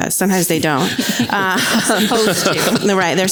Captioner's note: audience laughs